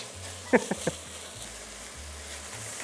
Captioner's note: laughs